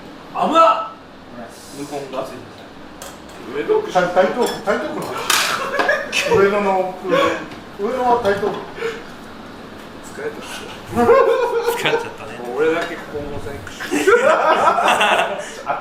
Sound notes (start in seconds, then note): 10.4 laughs